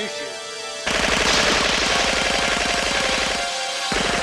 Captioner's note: guns firing